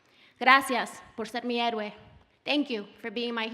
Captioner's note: speaking Spanish